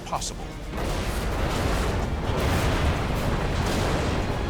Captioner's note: explosions